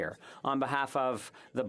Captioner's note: speaking French